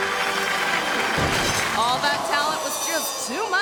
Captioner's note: crowd clapping; orchestral music; crowd clamoring; conductor thuds